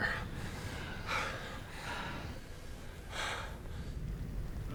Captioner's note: panting